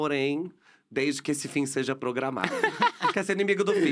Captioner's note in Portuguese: risos